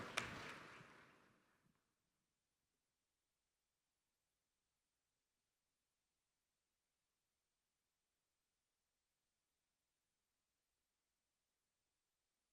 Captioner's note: applause